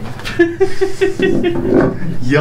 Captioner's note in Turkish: Gülüşmeler